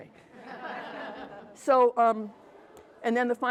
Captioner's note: attendees chuckle